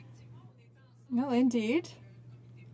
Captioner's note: speaking French